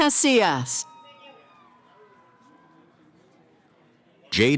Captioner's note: cheering